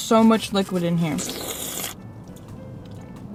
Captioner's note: slurps liquid burrito